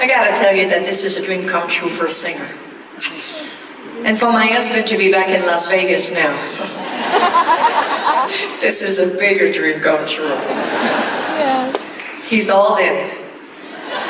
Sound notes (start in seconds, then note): 3.0 smacks lips; 6.5 audience laughs; 7.0 giggles